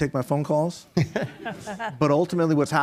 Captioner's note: group laughing